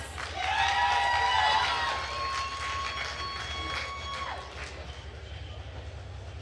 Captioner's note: attendees cheering and applauding